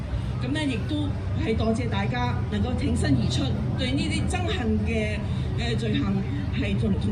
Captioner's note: speaking foreign language